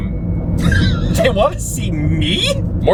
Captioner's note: laughing